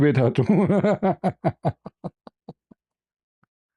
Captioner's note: ketawa